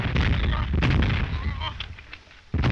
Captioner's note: groaning